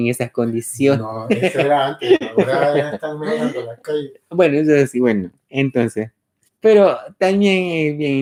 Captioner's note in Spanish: Laughs